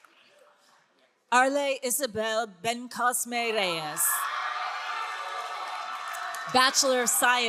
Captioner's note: all cheering